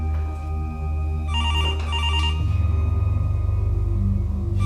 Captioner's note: phone rings